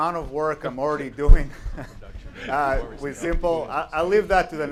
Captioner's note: laughs